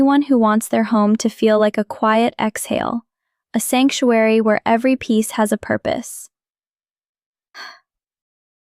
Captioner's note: sighs